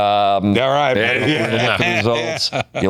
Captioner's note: laughter